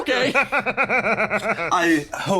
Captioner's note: laugh